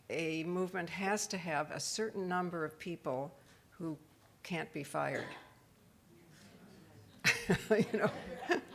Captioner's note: laughs